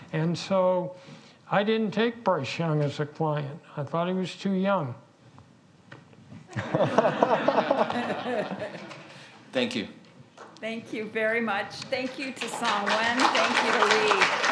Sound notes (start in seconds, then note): 6.5 audience laughs